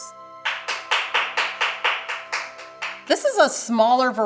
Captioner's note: audience member applauds